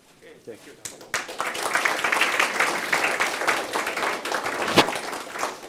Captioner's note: applause